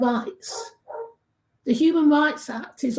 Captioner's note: dog barking